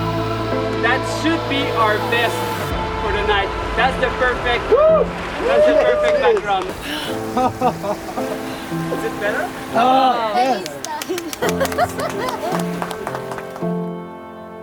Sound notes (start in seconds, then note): 9.8 laughing of joy; 10.1 everyone clapping